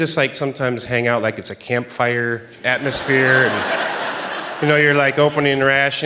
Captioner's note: laughter